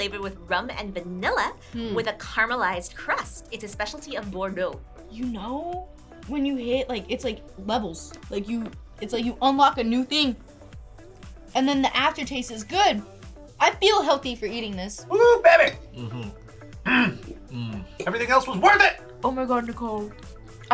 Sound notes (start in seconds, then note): 16.8 growls